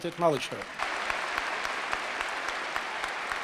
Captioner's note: applause